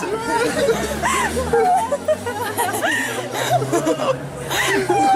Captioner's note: friends laughing